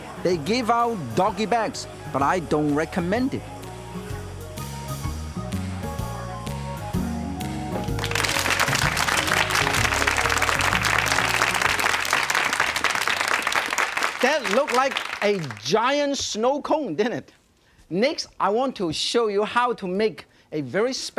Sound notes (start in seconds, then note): 4.0 flute and cymbal playing; 7.7 audience clapping